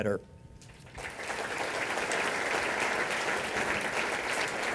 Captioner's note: applause